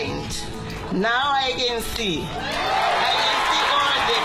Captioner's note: crowd cheering